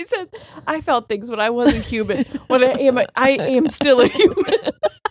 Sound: both laughing

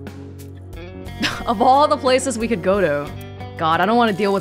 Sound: scoffs

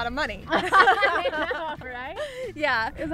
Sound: laughing

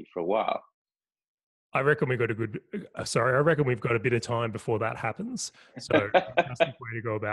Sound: laugh

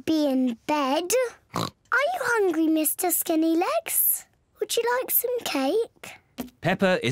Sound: oinks

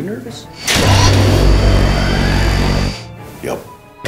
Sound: engine revving

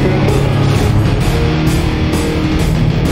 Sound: Safeguard powers up

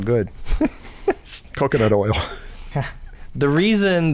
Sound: chuckles

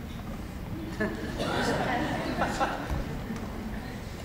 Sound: laughing

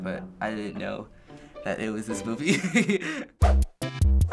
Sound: laughs; quirky interlude

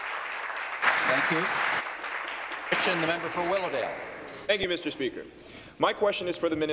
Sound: applause

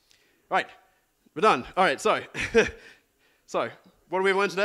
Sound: laughs

